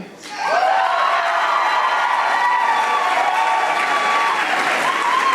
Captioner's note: audience applauding